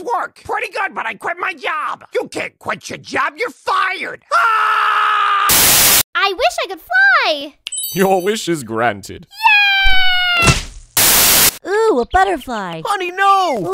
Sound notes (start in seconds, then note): 10.3 splat